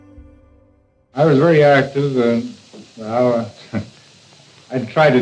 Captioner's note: chuckles